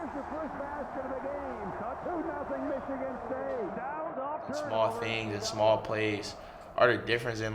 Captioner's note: announcers chattering; audience cheering